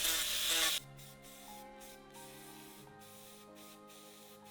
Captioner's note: spray whooshing